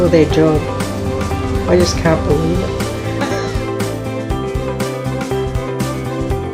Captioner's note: laughs